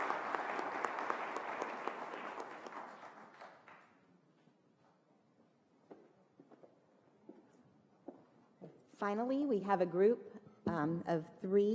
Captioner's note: applause